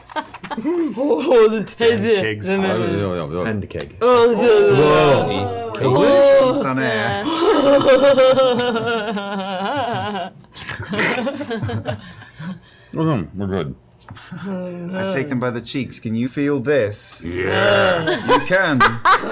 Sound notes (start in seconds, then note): 7.1 laughs; 13.1 slurring